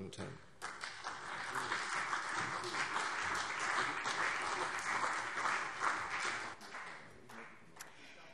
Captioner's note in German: Beifall CDU und BÜNDNIS 90/DIE GRÜNEN